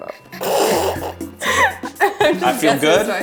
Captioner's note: laughs